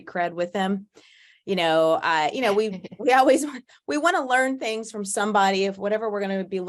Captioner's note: both laugh